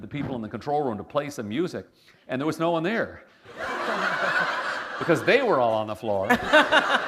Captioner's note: laughter